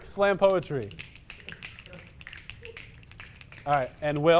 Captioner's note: significantly loud + fast snapping